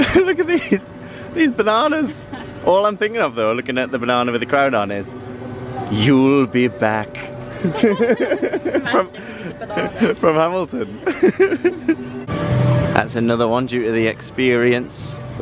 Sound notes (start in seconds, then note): 7.6 laughter